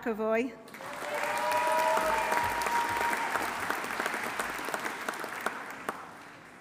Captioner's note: audience applauding; audience cheering